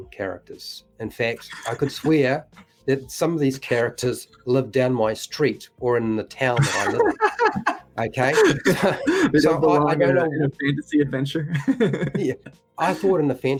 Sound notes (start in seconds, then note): 1.4 laughs; 6.5 rofls